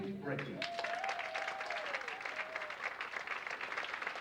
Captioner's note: audience applauds